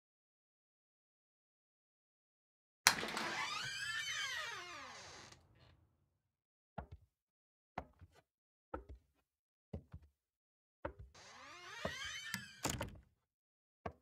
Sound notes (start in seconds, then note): 2.8 door creaking; 11.2 door creaking shut